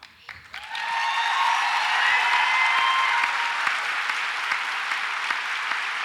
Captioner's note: audience applauds and cheers